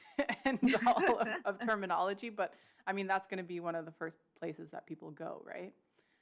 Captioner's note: laughter